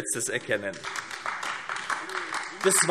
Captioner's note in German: Beifall AfD